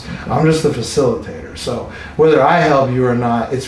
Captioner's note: laughing